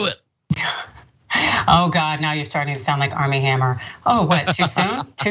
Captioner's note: laugh